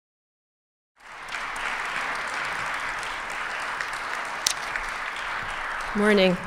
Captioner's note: applause